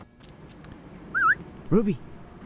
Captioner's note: whistle